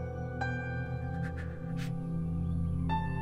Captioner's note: Sobbing